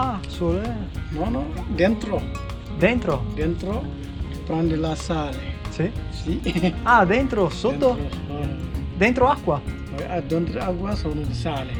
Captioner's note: speaking Italian